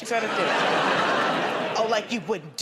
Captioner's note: laughter